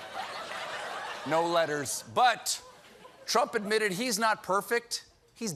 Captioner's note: laughter